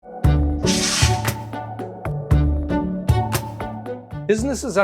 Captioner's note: gentle music; air whooshing